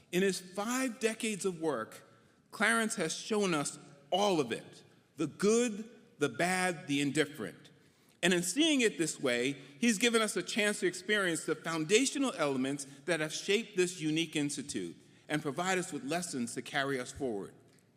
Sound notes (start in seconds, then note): none